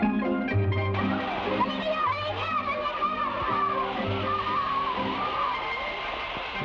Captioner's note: fireworks hiss; boys shout